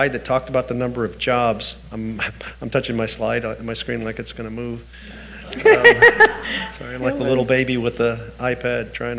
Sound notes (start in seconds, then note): 5.2 people laugh